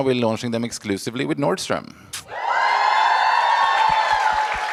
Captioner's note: cheers